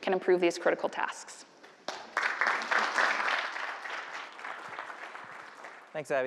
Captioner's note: applause